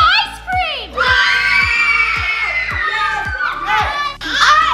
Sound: children screaming

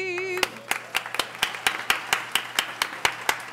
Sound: applause

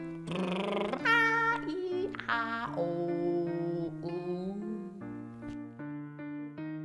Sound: gibberish and vocal exercises

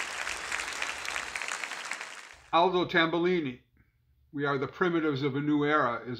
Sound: applause

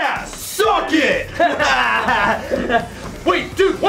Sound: laughter

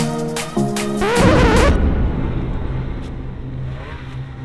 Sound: record scratching

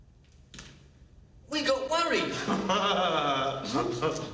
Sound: Dim laughing

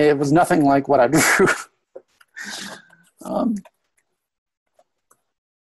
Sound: laughs

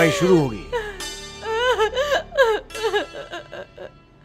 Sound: crying

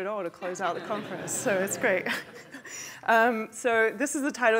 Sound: laughter; laughs

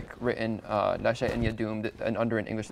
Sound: speaks in foreign language

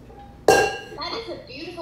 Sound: metal bowl clangs

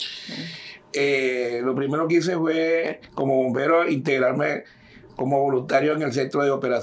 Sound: speaking in Spanish

